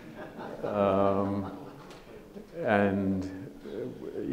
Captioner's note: audience laughs